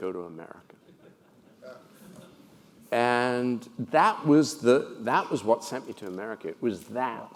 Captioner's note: laugh